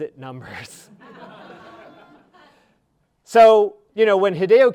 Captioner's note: audience laughing